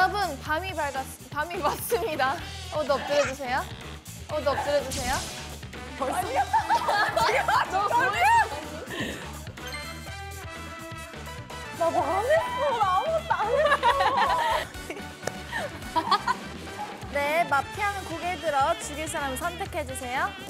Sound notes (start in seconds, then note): 3.0 surprised